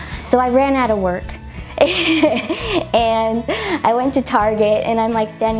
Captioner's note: laughs